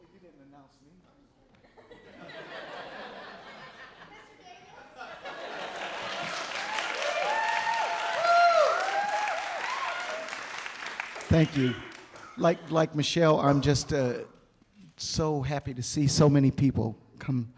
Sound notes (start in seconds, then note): 1.8 audience laughing; 5.6 applause, cheering